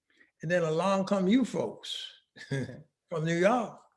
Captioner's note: laughing